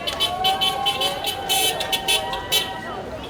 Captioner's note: horn honking